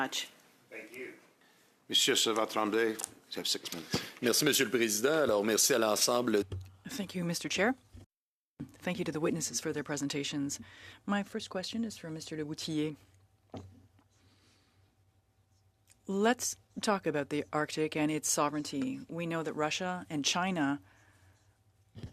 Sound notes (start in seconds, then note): 8.7 speaking french